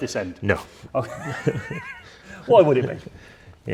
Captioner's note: laughing